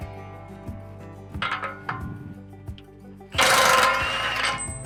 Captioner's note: gently chiming bells